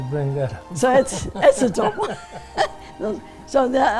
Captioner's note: laughter